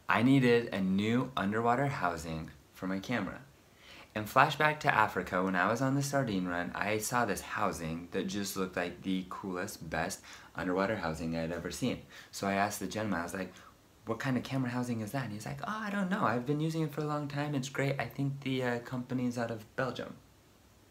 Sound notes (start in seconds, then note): none